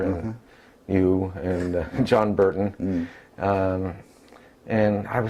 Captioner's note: laugh